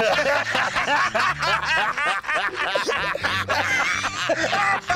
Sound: laughter

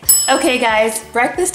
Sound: ding

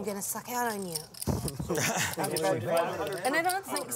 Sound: laughs

